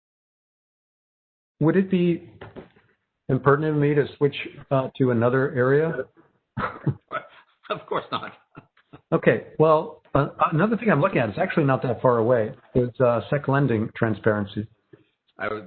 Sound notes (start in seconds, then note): 2.3 tapping softly; 6.6 laughs